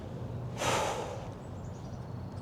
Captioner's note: sigh